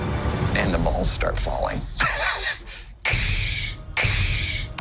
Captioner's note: laughing, mimicking "crash" sounds